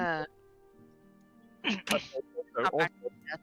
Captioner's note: coughs